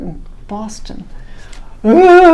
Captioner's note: grumbles